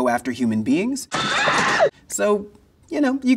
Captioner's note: bystander screaming